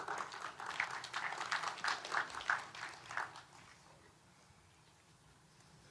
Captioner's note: applause